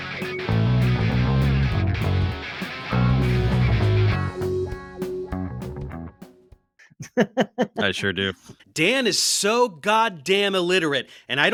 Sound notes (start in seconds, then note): 0.2 upbeat music; 2.8 laughing